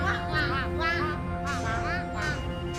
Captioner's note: ducks quacking loudly